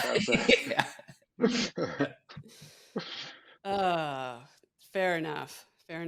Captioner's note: laughs